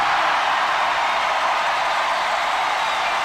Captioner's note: cheering